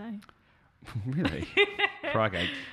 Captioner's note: laughs